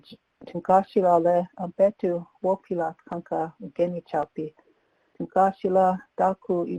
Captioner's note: speaking in Lakota